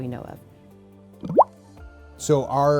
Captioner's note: tar bubbles